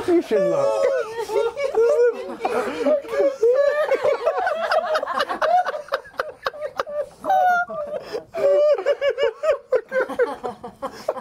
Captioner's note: laughter